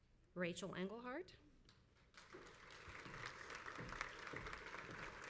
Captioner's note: crowd applauds